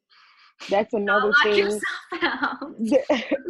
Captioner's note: laughs